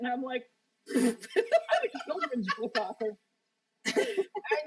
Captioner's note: laughter